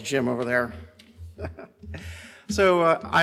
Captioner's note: laughs